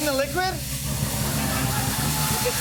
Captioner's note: laughter